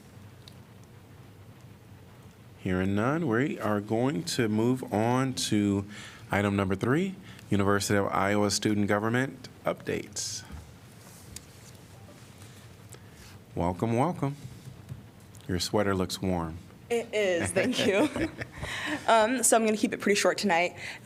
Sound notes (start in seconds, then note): 17.4 laughter